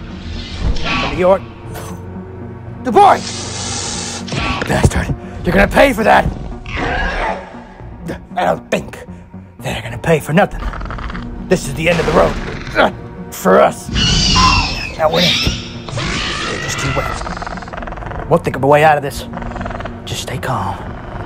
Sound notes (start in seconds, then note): 13.8 Raptor Squeals